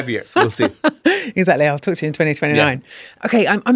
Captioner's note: laughs